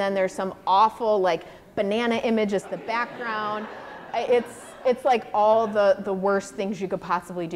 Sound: audience laughter

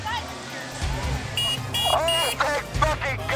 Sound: scooter horn

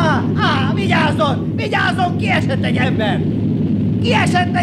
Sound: screams

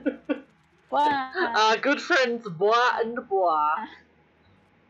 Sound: laughing

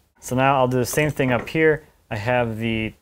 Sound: none

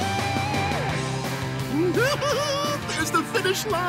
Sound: giggling

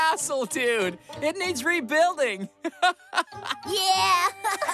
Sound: laughs

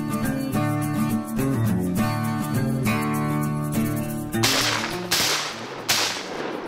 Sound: gunshots

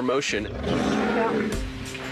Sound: growls

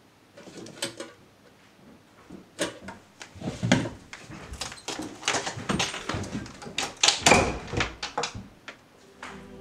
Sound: footsteps coming up the stairs; ominous music cuts in

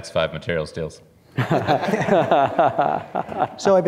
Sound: laughter

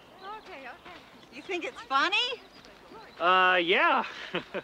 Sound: laughs

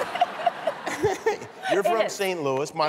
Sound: laughter

